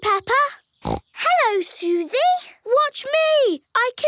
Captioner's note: snorts